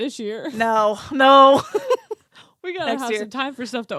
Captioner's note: both laughing